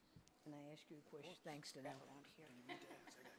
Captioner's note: voice fades; woman laughs